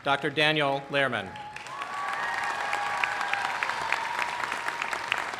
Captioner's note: applause